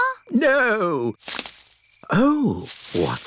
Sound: rustling

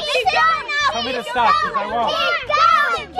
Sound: children chattering loudly in agreement

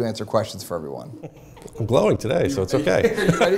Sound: laughter

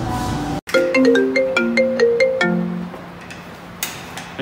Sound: mobile rings

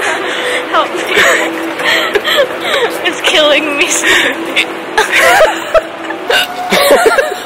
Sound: laughing uncontrollably; hiccup; hiccups again

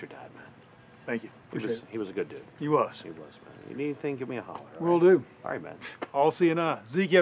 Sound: none

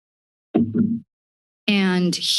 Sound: silence; thud

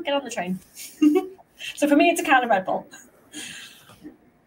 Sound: chuckles

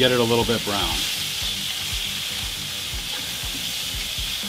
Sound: pan simmering

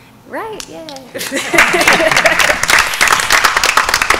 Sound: applause

